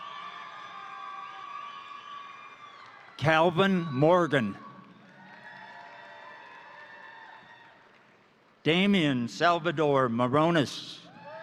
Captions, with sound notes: (crowd cheering) (crowd applauding) Calvin Morgan, (crowd cheering) (crowd applauding) Damian Salvador Morones,